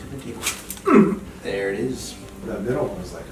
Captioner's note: back cracks; patient grunts